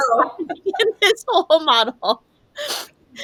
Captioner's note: laughs